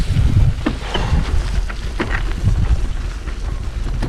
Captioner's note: bicycles moving